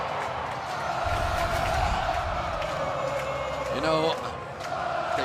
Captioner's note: crowd chanting